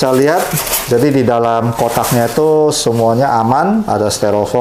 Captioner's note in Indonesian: suara styrofoam